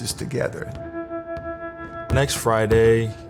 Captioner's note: gentle pensive music; ball thumps